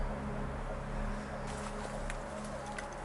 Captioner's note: none